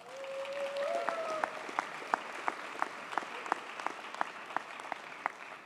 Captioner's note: audience cheers and applauds